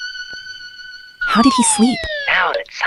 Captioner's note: whispering